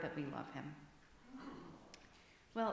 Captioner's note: murmur from congregation